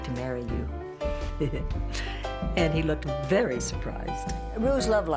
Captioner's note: laughs